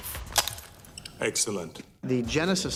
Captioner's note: gun cocking